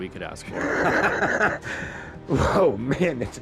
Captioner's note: laughs